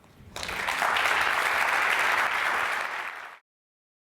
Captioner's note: audience applauds